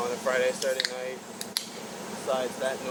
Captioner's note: aluminum can being opened